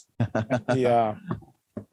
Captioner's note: laughter